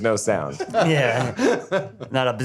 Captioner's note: laughs